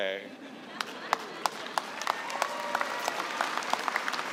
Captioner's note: applause